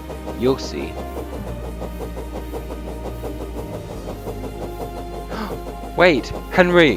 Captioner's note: gasps